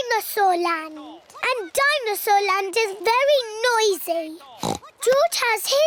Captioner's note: oinks